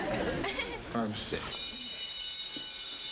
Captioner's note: bell rings